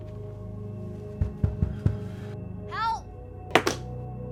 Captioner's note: knocking on door